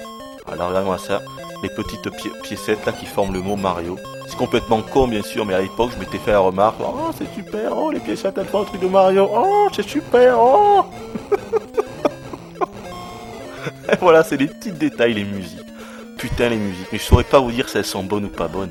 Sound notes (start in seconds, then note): 14.3 laughs